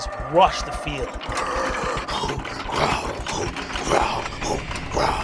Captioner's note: sound of fierce groaning